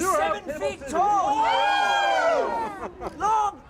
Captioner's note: crowd yelling; laughter